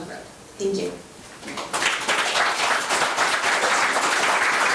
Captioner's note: members applauding